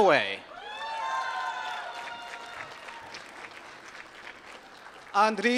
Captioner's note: applause